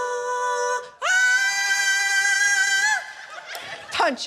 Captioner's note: screeches